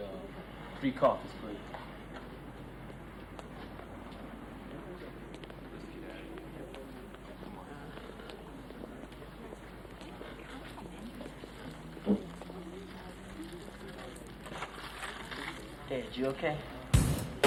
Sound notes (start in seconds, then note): 5.0 feet clacking; 9.8 people chattering; 14.4 paper rustles